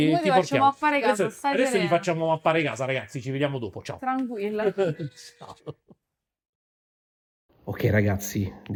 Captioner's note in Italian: risate